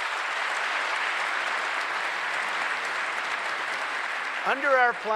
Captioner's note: applause